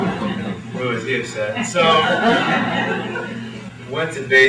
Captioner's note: laughter